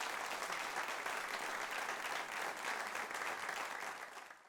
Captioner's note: audience applauding